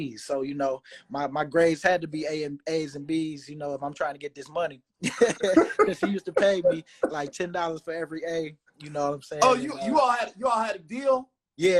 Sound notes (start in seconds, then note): 5.0 laughing